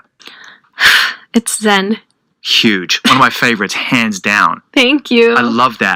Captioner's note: exhales